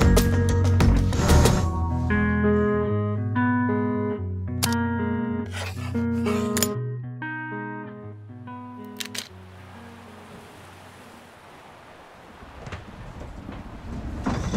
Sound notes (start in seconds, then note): 5.4 pencil scratches